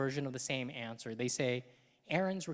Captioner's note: none